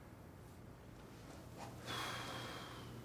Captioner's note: exhales